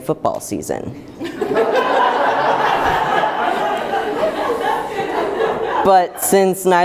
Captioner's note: group laughter